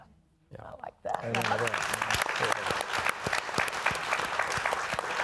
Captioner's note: audience applauding